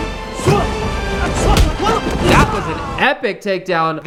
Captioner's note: groans